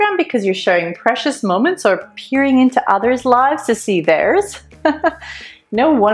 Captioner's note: laughter